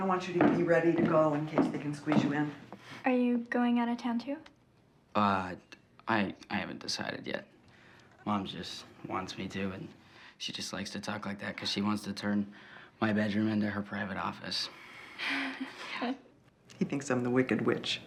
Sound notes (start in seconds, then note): 15.2 Maggie laughing